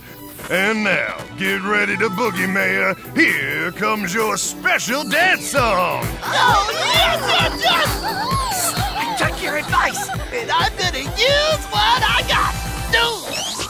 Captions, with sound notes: And now, get ready to boogie mayor. Here comes your special dance song. (cheering) - I took your advice, and I'm gonna use what I got.